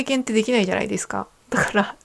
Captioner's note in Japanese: none